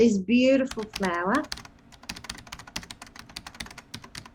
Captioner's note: typing sound effects